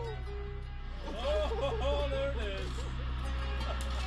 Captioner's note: slow instrumental music; voiceover; slow instrumental music